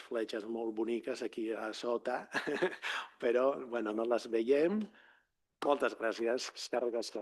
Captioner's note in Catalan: rialles